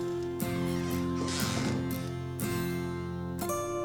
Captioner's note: door squeaking; door thudding; gentle music